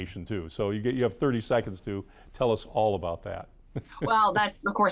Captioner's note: laughs